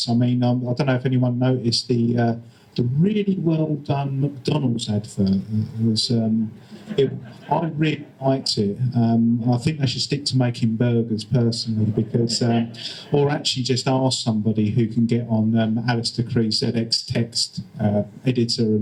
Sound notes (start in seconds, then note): 6.6 audience laughter; 7.1 sarcastically